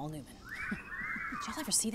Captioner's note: whistling